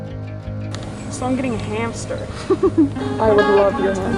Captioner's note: laughter